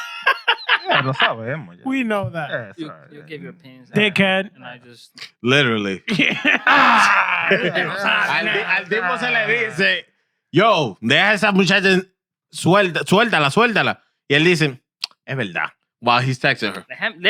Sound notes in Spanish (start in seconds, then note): 7.9 Hablando en idioma extranjero; 7.9 Riendo; 11.1 Hablando en idioma extranjero; 15.7 Hablando en idioma extranjero